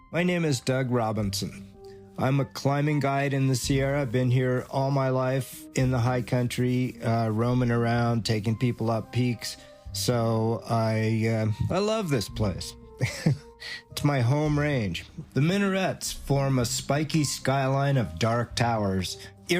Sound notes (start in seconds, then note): 13.0 chuckles